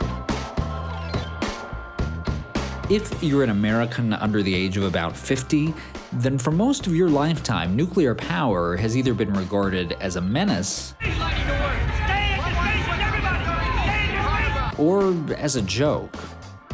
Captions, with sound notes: If you're an American under the age of about 50, then for most of your lifetime, nuclear power has either been regarded as a menace (people yelling) or as a joke.